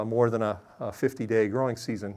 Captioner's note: none